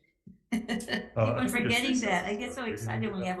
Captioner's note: chuckles